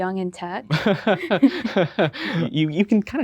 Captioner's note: both chuckle